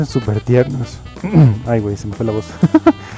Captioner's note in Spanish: Se aclara la garganta